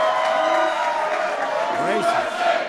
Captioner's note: applause